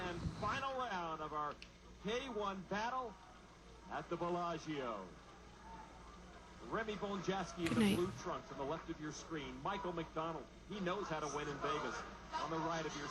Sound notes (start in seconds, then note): 4.2 background TV noise continues; 12.2 background TV noise continues